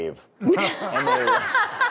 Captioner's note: audience laughs